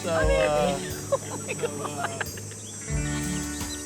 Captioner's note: laughing; soft music